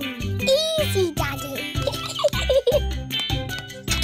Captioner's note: giggles